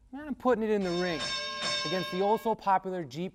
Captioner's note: bells clanging